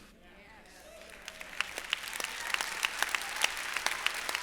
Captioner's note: applause